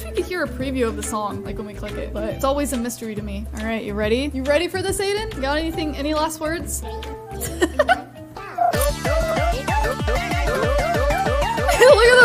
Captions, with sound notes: I wish we could hear a preview of the song like when we click it, but it's always a mystery to me. All right, You ready? You ready for this, Adan? Got anything, any last words? (giggles) (frenetic music)